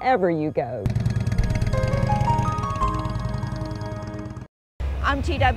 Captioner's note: motorcycle whirring; bright music